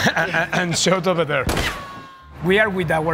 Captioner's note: imitates gunfire; people laughing; shot firing